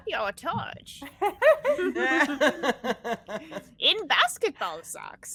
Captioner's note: all laughing